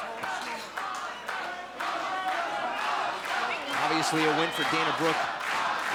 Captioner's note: crowd cheering